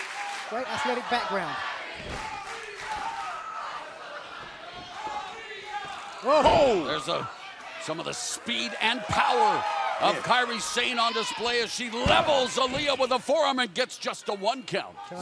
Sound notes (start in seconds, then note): 5.7 fans chanting